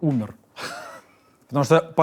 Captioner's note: laughs